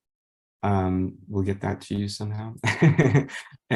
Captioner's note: laughs